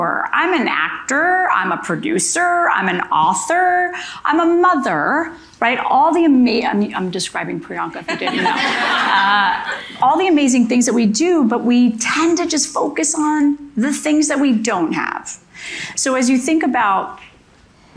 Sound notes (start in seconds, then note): 8.1 audience laughing